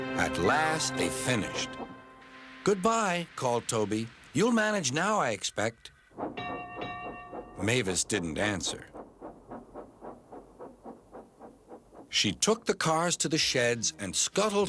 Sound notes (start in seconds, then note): 6.5 dings bell